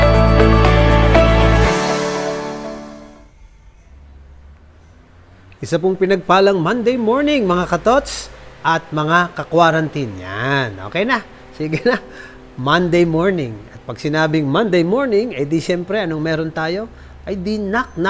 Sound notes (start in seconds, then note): 10.1 laughs